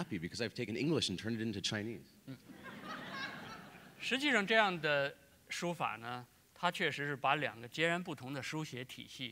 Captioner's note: laughter; speaking in Chinese